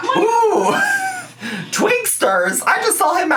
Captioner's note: laughs